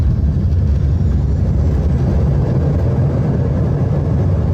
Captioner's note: brakes squeaking; propellers whirring